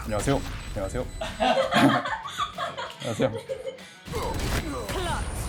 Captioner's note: with a wicked laugh